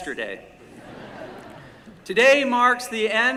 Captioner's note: laughter